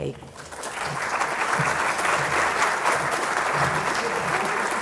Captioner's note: applause